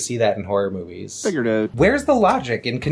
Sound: Canadian accent

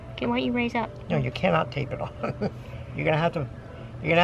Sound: laughing

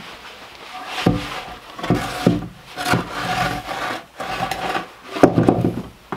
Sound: wood thumping against floor

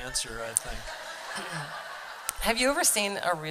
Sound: laughter

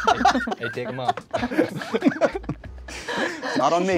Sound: laughs; all laughing

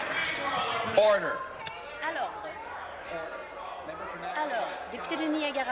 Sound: applause

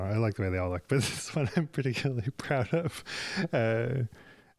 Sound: chuckles

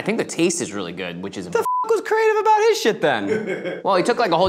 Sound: beep

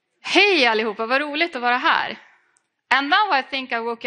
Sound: speaking in foreign language

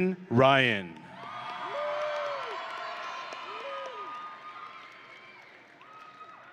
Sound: audience and graduates cheering

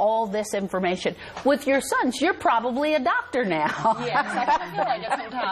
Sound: laughs

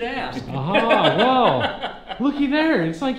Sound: laughs

